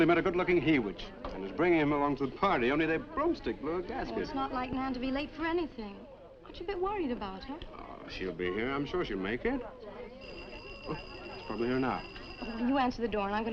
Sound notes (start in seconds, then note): 10.2 doorbell ringing